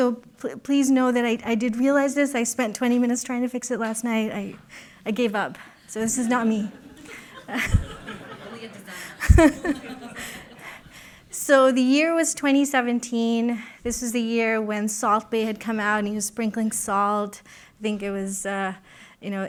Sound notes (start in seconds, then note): 6.6 laughter